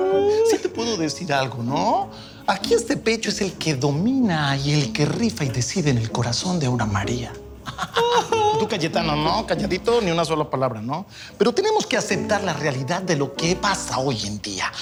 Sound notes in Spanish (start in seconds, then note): 7.6 Risas